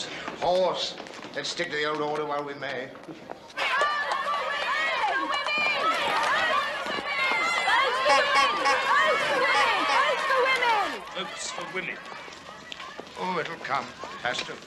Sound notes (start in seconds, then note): 3.6 crowd chanting; 8.0 car horn honking